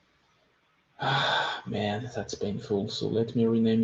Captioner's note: exhales